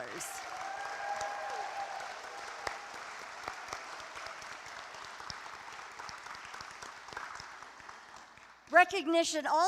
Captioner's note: applause